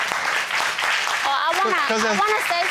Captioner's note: audience applauding